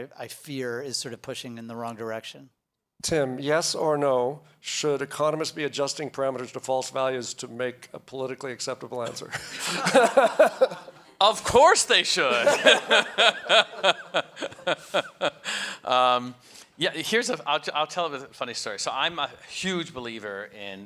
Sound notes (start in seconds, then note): 9.1 audience laughs; 12.2 laughs